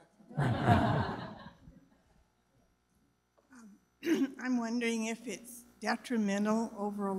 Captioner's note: laugh